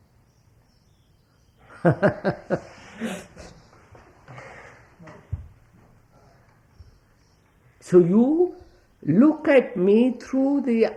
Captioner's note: laughs